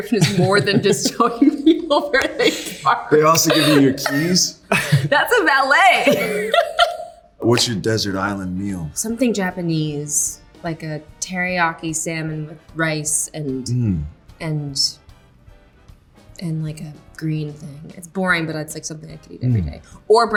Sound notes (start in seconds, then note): 0.0 laughing; 5.9 both laughing